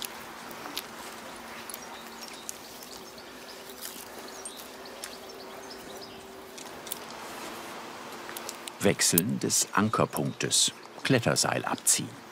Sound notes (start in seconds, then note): 1.6 birds chirping